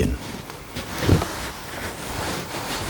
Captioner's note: rustling